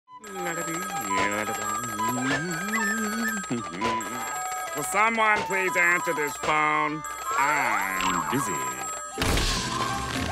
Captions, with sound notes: [humming] Will someone please answer this phone? I’m busy.